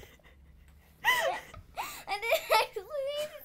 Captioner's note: both laugh